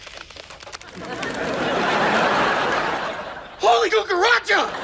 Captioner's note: laughs